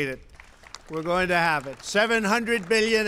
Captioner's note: applause